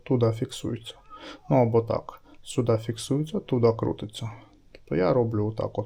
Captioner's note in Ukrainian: сопіння